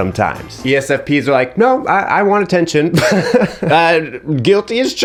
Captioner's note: laughs